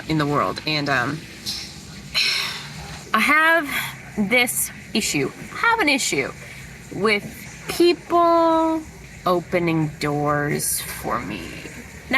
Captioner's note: heavy sigh